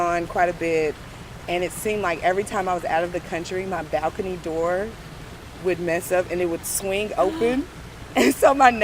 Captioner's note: gasp